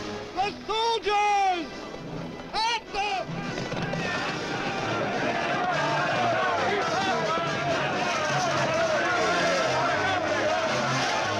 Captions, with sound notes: - The soldiers! At them! (men shouting)